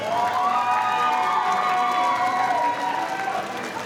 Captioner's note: audience cheering